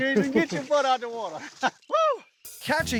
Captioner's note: laughing